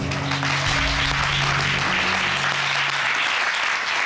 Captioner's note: applause